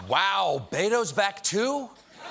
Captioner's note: cheers and applause